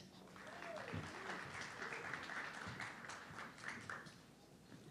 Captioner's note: audience clapping